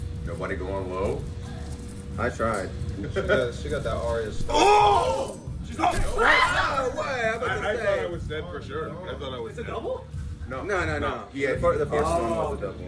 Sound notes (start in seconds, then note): 3.0 laugh; 6.0 laugh